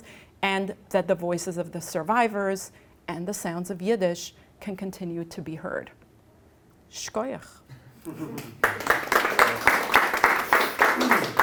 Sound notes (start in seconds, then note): 6.8 non-english speech; 8.3 applause